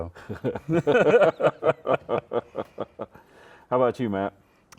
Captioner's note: laughing